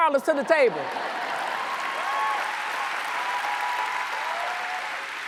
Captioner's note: audience cheers and applauds